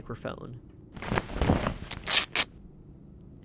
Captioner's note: tearing clothing